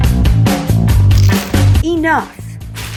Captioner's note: chips crunching